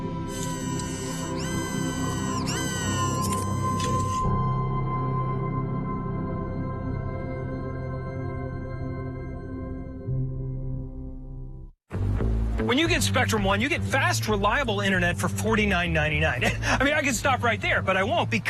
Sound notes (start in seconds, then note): 4.4 mechanical whir